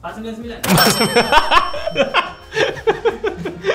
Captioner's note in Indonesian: ketawa